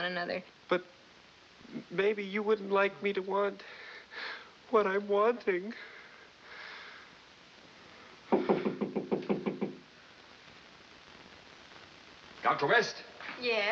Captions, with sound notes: But maybe you wouldn't like me to want.. ...what I'm wanting. [knocking on door] - Dr. West? - 'Yes.'